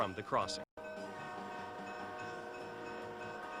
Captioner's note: train crossing bells; train horn